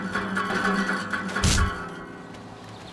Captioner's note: thud